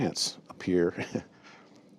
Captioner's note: laughter